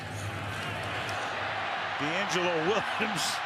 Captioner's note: cheers, applause